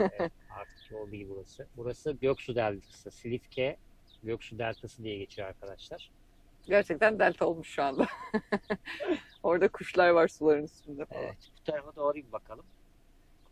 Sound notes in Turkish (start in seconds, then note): 8.0 kahkaha